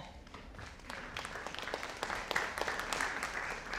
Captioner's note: audience applauding